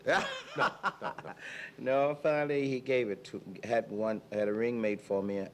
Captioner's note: laughing together